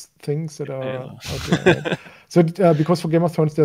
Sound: laughing

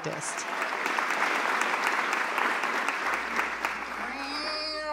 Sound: applause; meowing

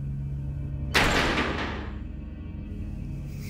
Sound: door slams

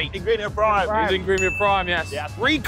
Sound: bell dings

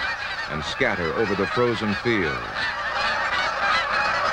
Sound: geese sounds

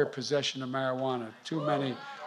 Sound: applause

